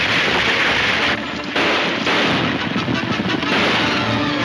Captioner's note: gunshots banging